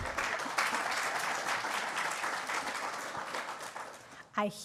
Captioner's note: applause